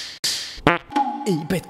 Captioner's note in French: prout